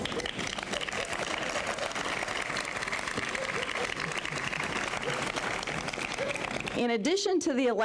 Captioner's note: applause